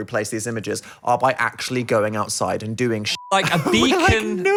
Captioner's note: beep